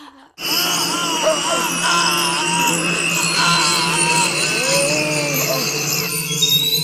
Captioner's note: Phil and Paul screaming